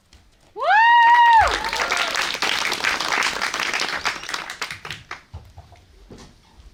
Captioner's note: applause